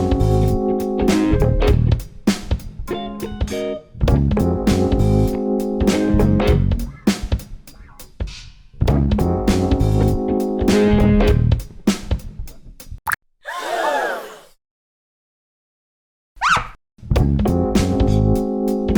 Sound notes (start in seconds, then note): 13.0 water drop; 13.4 crowd gasp; 16.4 squeak